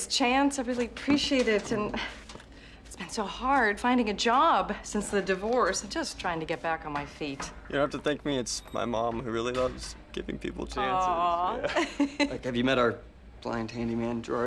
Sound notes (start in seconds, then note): 10.9 laughing